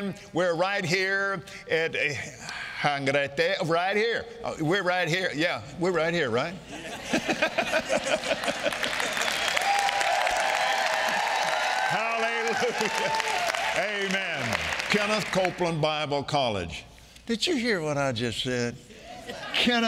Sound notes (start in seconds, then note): 6.6 congregation laughing; 9.8 congregation clapping